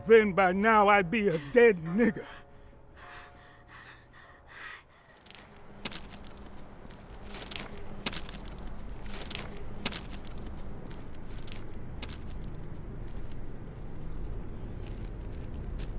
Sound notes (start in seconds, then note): 5.6 footsteps crunching; 11.0 ominous ambient music